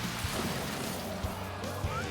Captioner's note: gasps